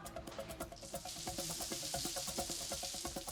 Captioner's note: water running